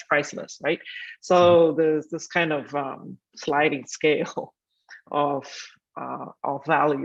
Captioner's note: chuckling